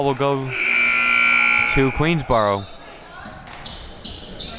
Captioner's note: buzzer sounding